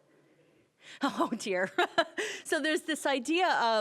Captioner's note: laughing